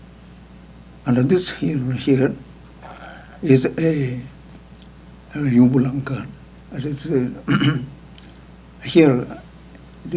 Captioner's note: speaking foreign language